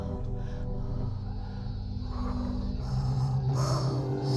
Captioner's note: humming